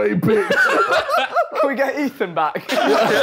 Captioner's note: group laughing